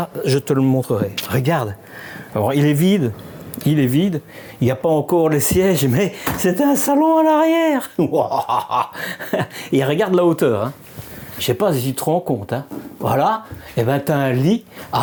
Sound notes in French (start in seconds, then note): 7.9 rires